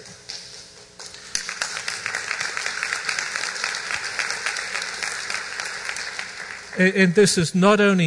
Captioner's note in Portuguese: aplausos